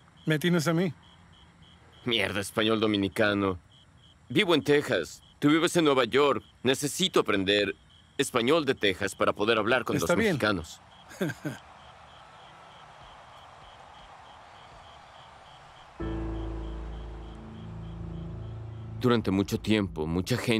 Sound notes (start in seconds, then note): 11.0 ríe; 18.5 mÚsica tensa